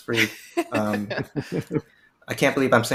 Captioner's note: chuckling